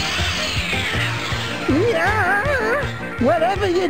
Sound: moans

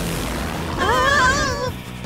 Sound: gasping

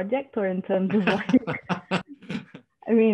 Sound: laughter

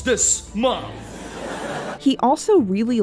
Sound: laughter

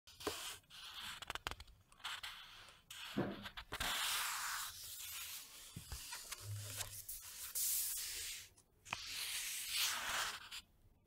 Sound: paper sounds

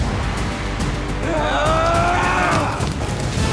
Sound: grunting

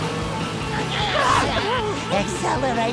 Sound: shrieking

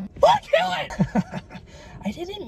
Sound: laughing

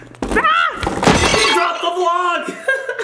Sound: crashing sound

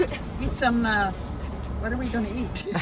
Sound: laughing

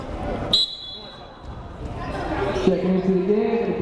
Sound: whistle blowing

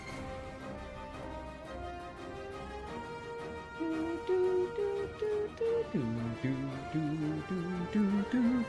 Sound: humming

